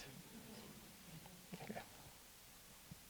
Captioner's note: audience chuckling